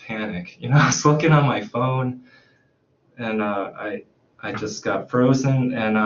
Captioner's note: chuckles